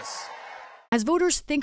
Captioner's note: applause; cheering